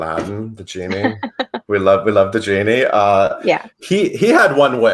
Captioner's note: laughs